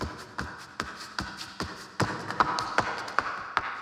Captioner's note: shoes clacking